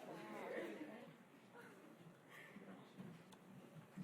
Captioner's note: chattering